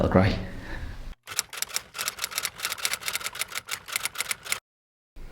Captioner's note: typewriter clunking